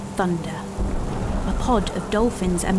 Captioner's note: wind, rain and thunder